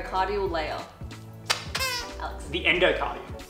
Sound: squeaks

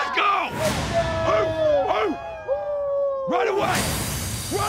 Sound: cheering

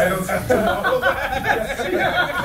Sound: laugh

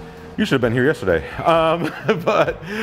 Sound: laughs

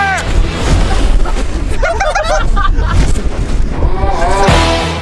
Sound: laughing

